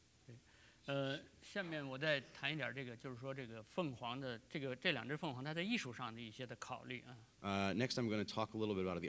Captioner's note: speaking in Chinese